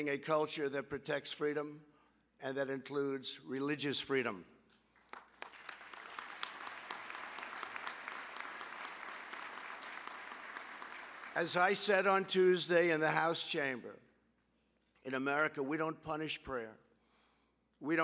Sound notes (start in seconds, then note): 4.9 applause